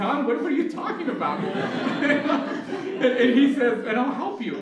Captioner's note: laughter